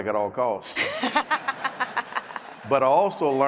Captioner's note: laughs